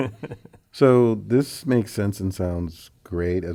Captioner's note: laugh